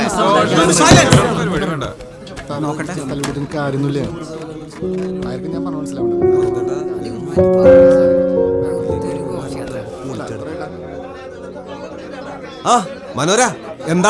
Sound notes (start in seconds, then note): 0.0 indistinct chatters